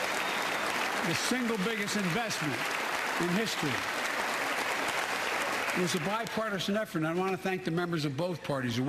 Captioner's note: applause